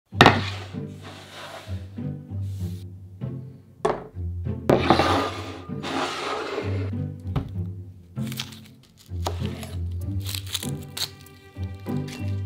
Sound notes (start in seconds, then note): 0.0 quirky music in background throughout video; 0.2 board sliding; 4.7 bowl sliding; 8.2 knife cutting